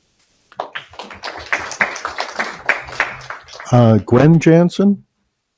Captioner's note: audience applauding